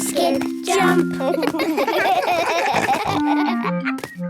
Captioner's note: laughing